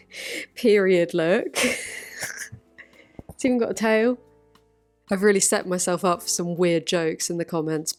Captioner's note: snort-laugh